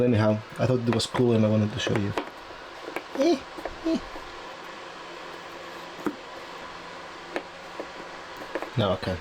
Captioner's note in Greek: μικροί ήχοι ενόχλησης!